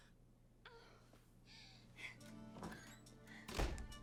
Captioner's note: woman whimpers